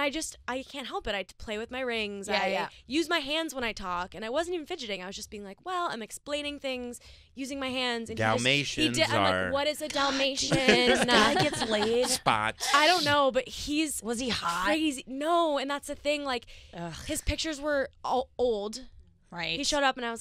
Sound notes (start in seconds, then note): 9.9 laughing